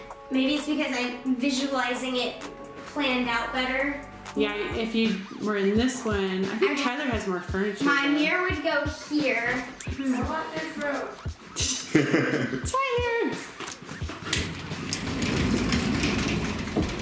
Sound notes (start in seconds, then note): 11.5 laughing